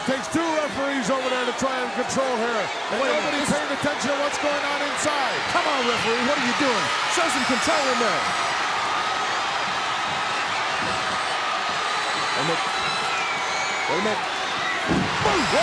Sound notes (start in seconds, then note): 8.8 crowd cheers